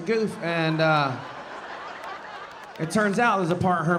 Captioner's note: audience laughing